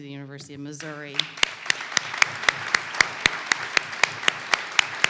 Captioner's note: audience clapping